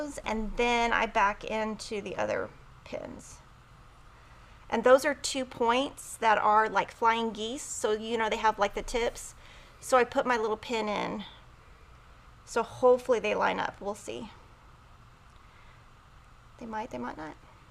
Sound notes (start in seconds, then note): none